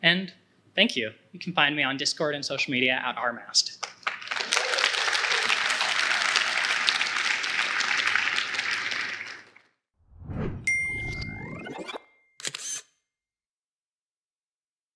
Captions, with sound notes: And thank you! You can find me on Discord and social media at Rmast. (applause)